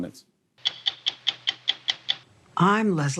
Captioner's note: ticking